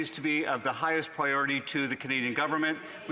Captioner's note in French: voix de l'interprète